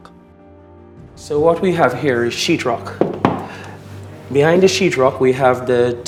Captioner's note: knocks